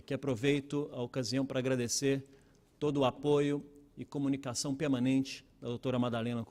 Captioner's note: speaking Portugese